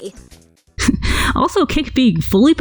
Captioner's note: snorts